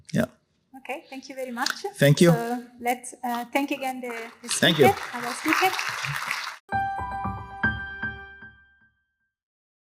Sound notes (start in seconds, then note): 6.0 applause